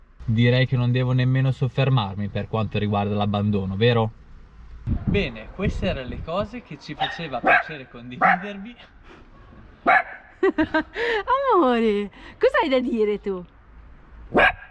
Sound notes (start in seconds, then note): 8.1 León's bark